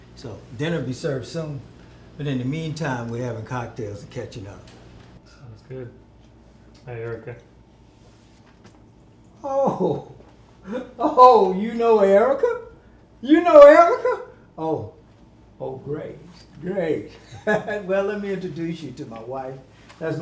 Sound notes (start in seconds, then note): 17.1 laughing